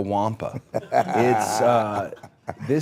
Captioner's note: Rey laughing